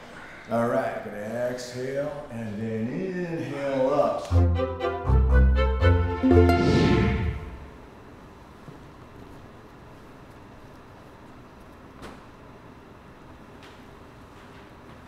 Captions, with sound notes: Alright, exhale, and then inhale up. (bouncy music) (air whooshes)